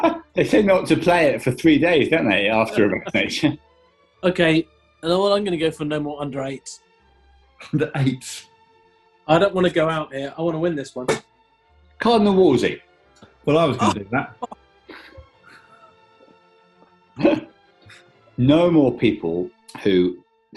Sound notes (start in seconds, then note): 0.0 laughter; 13.5 laughing